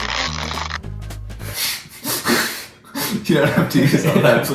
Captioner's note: laughs